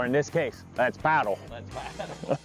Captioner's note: laughs